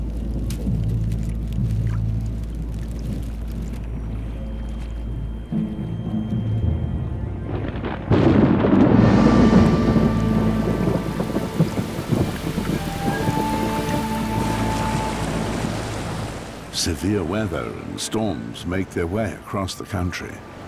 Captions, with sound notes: [thunder] Severe weather and storms make their way across the country.